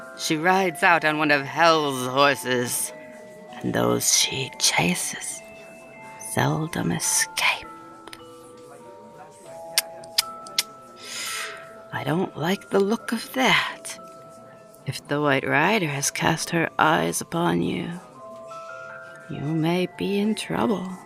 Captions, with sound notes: She rides out on one of hell's horses and those she chases seldom escape. [tongue clicking] I don't like the look of that. If the White Rider has cast her eyes upon you, you may be in trouble.